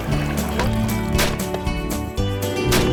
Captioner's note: gunshots; boat motor